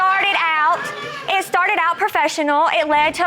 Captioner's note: audience exclaiming